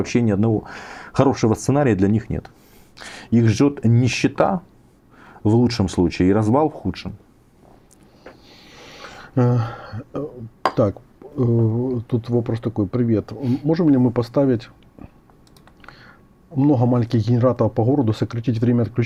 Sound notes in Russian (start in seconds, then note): 8.9 вздыхает